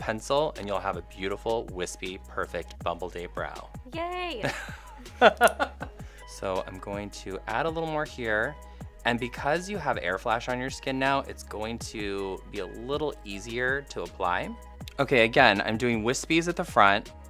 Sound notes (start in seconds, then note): 4.4 laughs